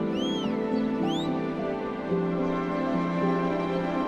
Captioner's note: whistling; soft dramatic music